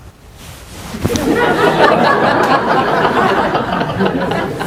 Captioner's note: laughter